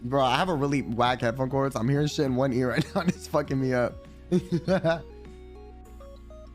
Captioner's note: laughs slightly